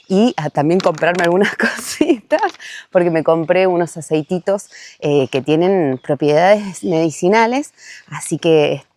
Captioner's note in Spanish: risas